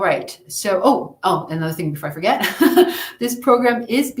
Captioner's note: chuckles